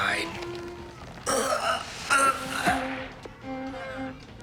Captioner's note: grunts; violin music